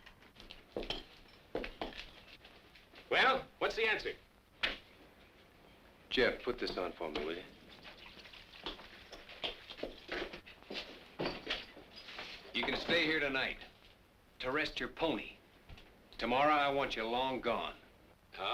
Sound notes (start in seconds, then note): none